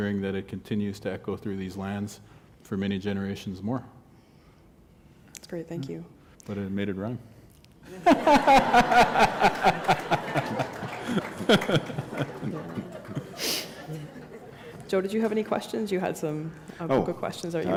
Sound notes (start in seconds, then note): 11.5 laughter